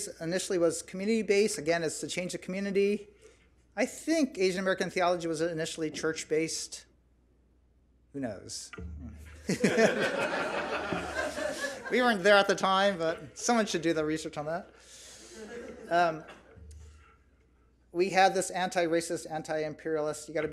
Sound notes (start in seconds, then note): 9.4 audience laughs; 15.1 audience laughs